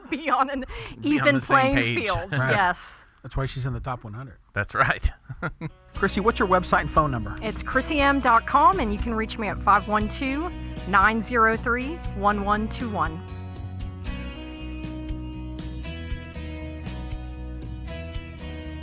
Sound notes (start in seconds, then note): 4.8 chuckles; 13.5 cheerful country music